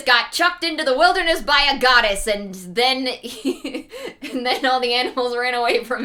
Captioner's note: laughing